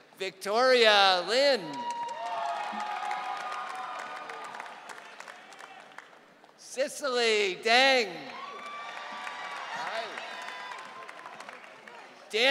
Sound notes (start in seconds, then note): 1.6 audience cheering; 8.0 audience cheering